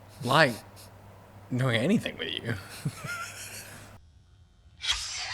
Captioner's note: wheezing